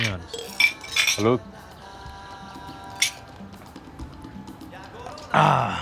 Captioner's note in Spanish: Sonido al chocar los vasos